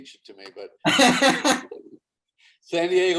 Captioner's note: David laughs